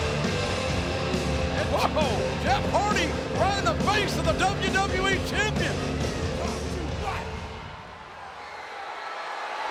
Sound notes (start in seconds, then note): 5.4 audience cheering